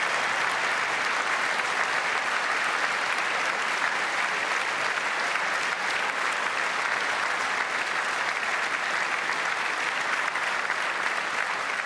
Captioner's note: applause